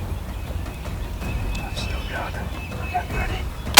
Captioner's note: whispering